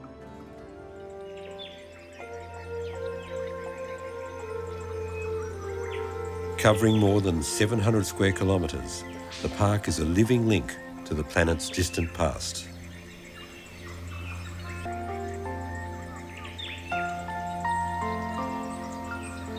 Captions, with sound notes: (birds chirping) (soft orchestral music) Covering more than 700 square kilometers, the park is a living link to the planet's distant past.